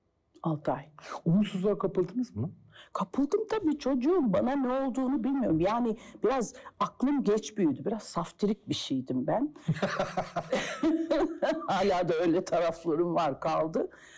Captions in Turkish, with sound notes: Altı ay. Umutsuzluğa kapıldınız mı? Kapıldım tabii, çocuğum, bana ne olduğunu bilmiyorum. Yani biraz aklım geç büyüdü. Biraz saftirik bir şeydim ben. (Gülüyor) Hala da öyle taraflarım var, kaldı.